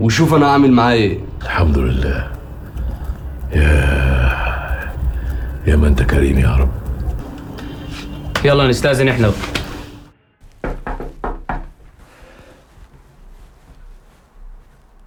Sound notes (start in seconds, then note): 10.5 door knocks